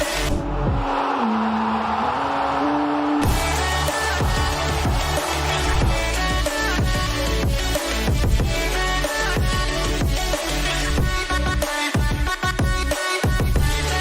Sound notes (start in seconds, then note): 0.4 students cheering; 3.5 upbeat music